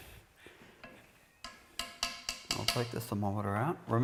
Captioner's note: clicking